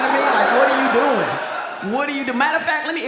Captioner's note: audience laughs